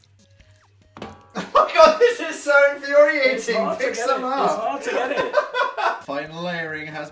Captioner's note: laughter